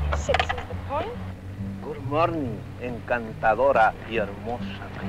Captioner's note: General Tostada speaking in Spanish